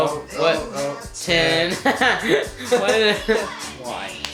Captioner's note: laughter